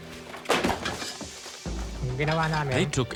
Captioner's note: non-english speech